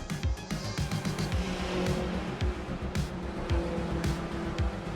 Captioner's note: upbeat music; car engine roaring